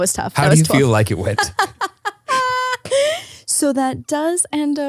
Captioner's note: laughs